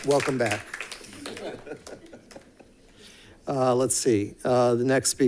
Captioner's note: board members giggling